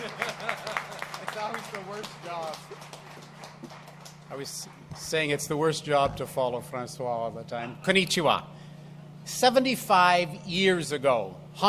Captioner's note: applause